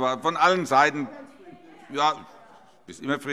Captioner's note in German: Zuruf